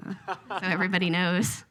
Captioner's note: laughs